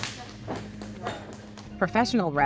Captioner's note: claps